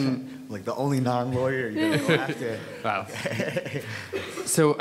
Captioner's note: chuckles